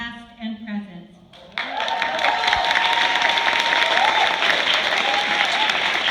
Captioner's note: applause